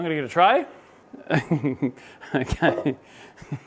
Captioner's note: laughing